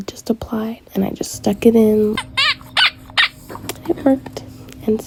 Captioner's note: doll crying sound